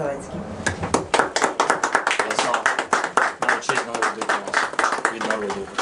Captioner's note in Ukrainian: аплодують